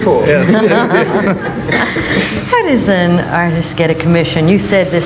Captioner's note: all laughing